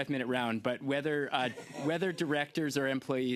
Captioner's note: laughter